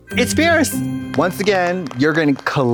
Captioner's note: festive chime